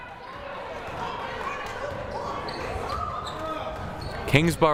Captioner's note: crowd murmuring